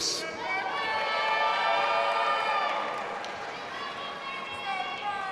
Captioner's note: audience applauding and cheering